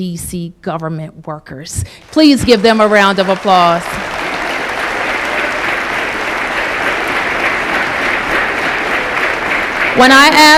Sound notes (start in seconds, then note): 3.4 applause